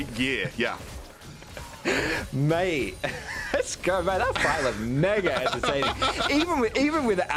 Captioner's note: laughing